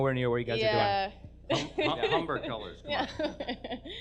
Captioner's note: laughs